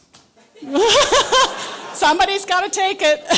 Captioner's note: laughter